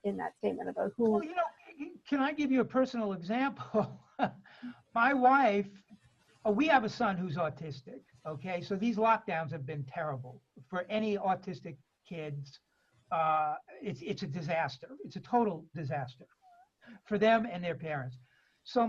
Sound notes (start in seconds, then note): 5.0 laughs